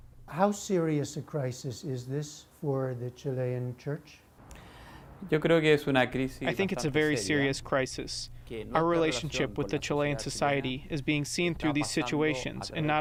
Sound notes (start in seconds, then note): 5.6 through translator